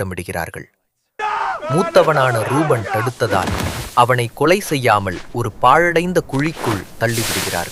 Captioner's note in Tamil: அலறுதல்